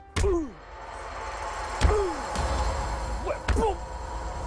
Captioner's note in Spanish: Quejidos